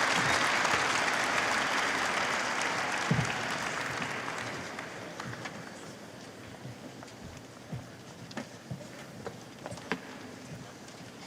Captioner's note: applause